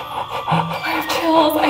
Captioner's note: music box chiming; gasps